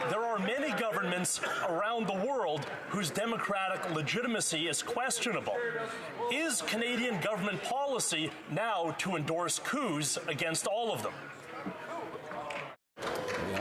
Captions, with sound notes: PRIME MINISTER OF CANADA. [ Some Laughter ] UNFORTUNATELY, THERE ARE MANY GOVERNMENTS AROUND THE WORLD WHOSE DEMOCRATIC LEGITIMACY IS QUESTIONABLE. IS CANADIAN GOVERNMENT POLICY NOW TO ENDORSE COUPS AGAINST ALL